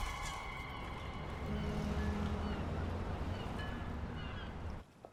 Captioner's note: car crashing; seagulls squawking